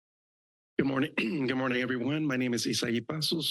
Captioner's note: clears throat